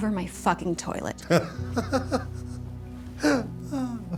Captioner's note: tommy laughs